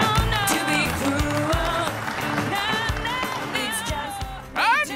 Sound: applauding

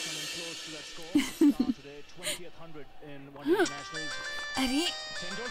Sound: giggling

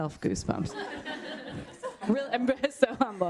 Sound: laughter

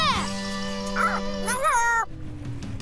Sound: squeaking

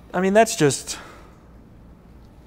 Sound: none

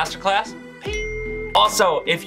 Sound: bell ringing

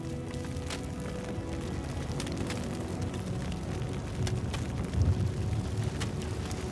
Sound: fire crackling; somber thoughtful music

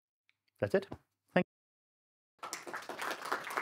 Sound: applause

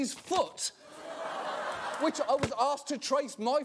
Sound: audience laughter

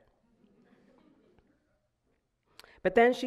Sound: audience laughing

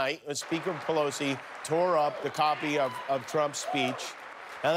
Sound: applause

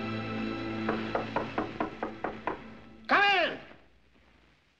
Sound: knocking

